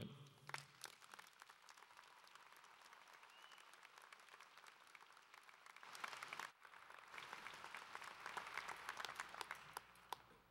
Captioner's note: applause